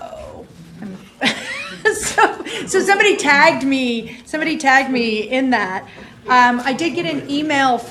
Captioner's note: chuckle